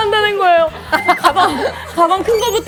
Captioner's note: awkward laughter